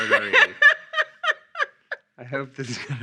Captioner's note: laughing